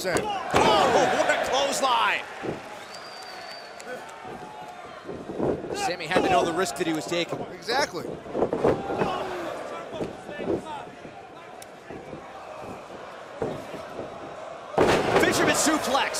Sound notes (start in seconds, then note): 5.8 crowd cheering; 11.8 crowd cheering